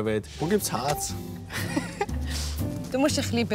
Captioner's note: laughs